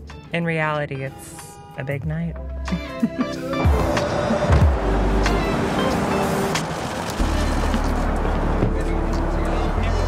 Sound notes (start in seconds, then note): 2.7 laughs; 5.4 cameras flashing